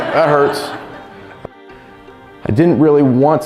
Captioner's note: audience laughs